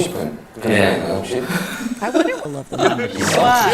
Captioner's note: haha